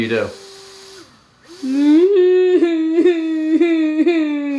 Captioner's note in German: weint